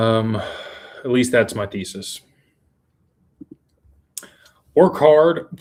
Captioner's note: sighs